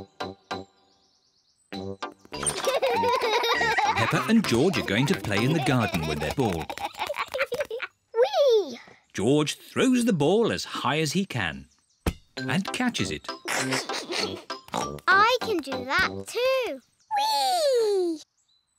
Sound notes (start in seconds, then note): 2.4 both giggle; 13.4 laughs; 13.5 snorts